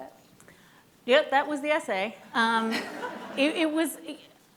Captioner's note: laughing